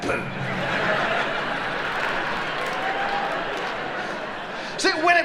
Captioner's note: audience laughing